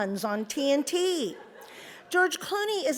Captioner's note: audience laughs